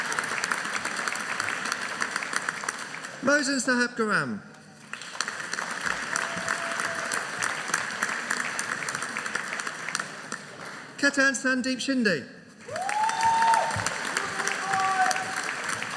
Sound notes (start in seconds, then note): 4.8 audience applauding; 12.7 audience cheering